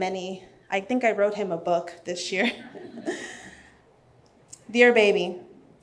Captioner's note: laughs